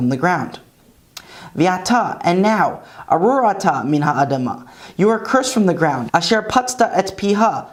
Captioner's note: Hebrew